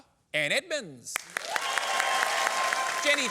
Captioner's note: applause